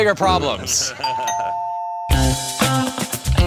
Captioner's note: laughter; doorbell rings; upbeat music